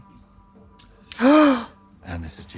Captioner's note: Trixie gasps